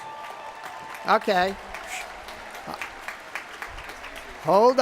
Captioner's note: shushes